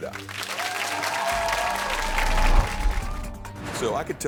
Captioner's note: audience clapping